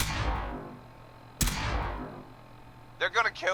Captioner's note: single laser sound